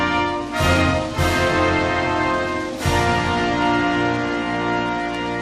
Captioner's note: applause